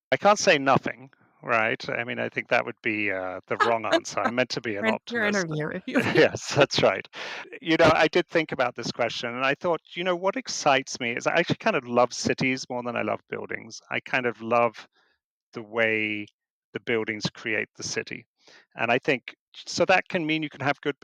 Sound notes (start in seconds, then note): 4.3 laughing; 5.9 chuckling